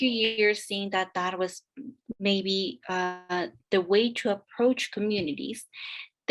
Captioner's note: speaking Spanish